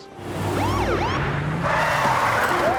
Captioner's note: siren blares; tires screech